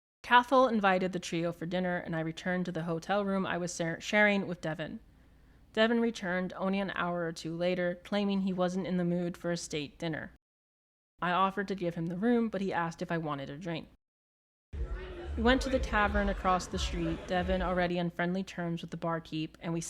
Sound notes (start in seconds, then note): 14.7 ambient bar sounds